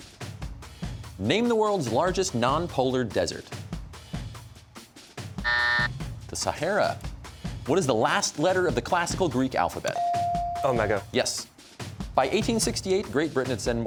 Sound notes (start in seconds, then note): 5.4 buzzer